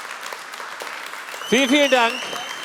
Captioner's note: Applaus